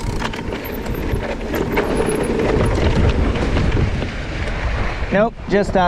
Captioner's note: dirt rustling; bike humming